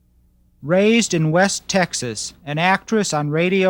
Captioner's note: voiceover